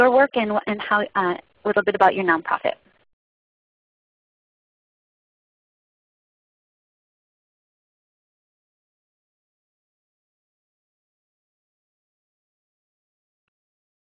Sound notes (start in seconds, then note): 3.0 silence